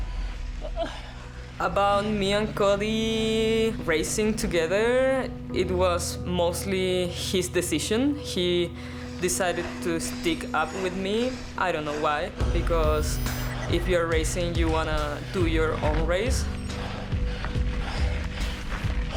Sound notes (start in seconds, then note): 0.6 dramatic music; 0.6 moans; 12.2 panting; 16.4 panting